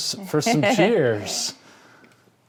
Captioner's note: laughing